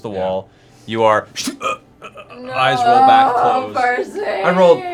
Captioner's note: dying sound